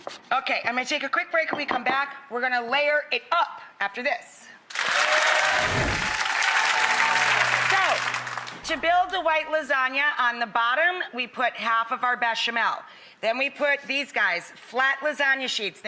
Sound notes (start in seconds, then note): 4.7 audience applauding